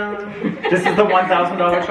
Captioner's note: family laughing